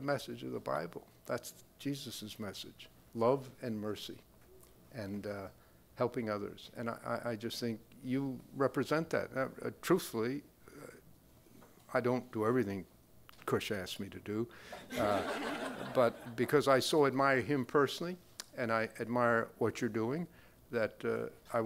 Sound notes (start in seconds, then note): 14.8 crowd laughing